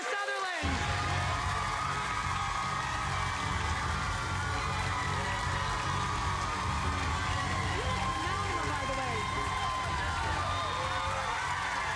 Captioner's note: cheers and applause